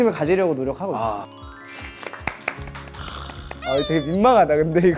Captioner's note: applause for the cool person